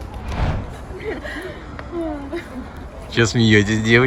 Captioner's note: laughter